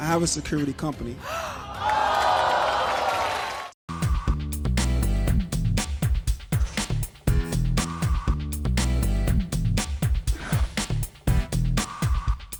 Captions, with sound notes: - I have a security company. (audience gasping)